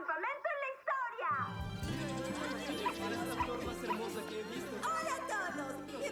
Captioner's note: chattering